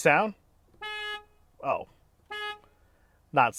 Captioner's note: horn honking